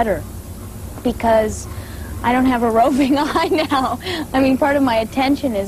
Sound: laughing

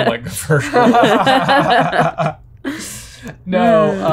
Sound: all laughing

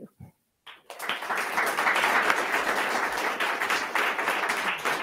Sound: attendees clapping

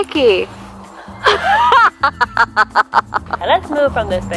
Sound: laughing

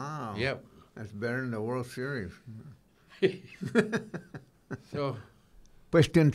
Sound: laughing

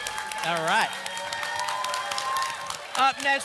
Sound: applause and cheering

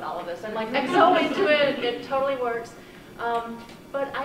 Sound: brief laughter

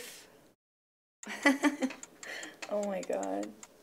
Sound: laughs

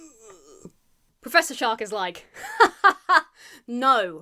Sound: imitates laughter

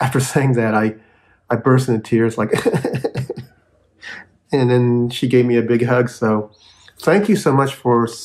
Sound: sobbing

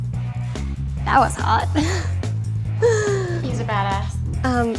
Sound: laughs

